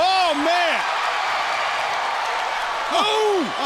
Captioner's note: crowd cheering